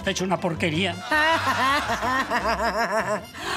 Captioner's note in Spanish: Risas